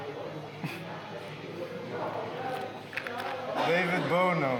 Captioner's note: Vladimir scoffs